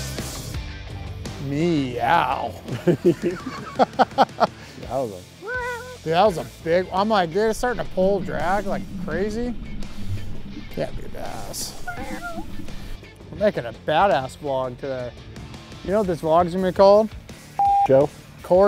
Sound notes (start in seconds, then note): 2.6 laughs; 11.6 meows